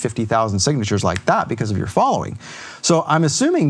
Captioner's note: snaps finger